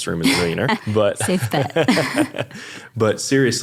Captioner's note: laughing